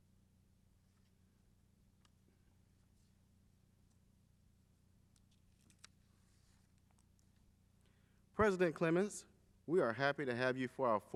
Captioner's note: silence